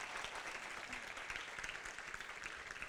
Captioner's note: applause